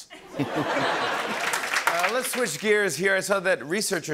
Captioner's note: laughter